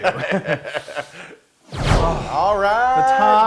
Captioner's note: laugh